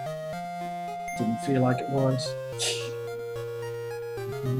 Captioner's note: laughs softly